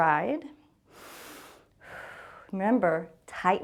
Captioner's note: inhales and exhales